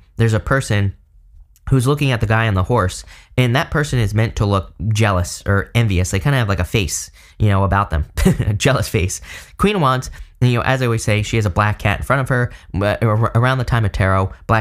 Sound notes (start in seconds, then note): 8.2 chuckles